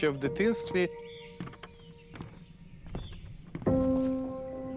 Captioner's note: birds chirping